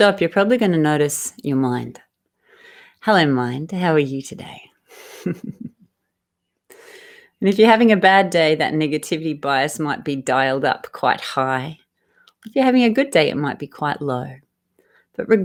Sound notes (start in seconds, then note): 4.9 laughs